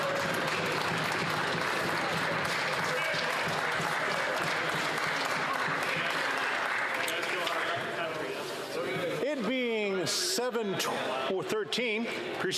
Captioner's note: some Applause